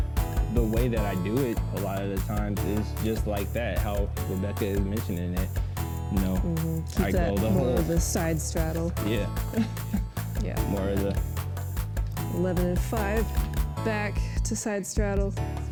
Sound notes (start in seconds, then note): 9.4 chuckles